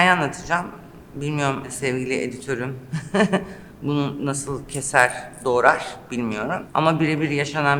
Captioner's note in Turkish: kahkaha